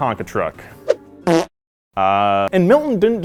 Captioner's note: farting sound